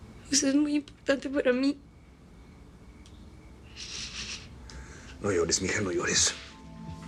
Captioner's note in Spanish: Llorando